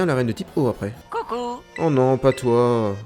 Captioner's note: French dub